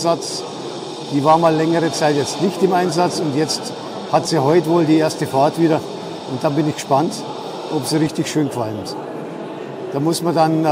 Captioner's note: steaming